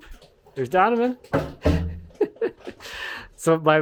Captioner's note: laughs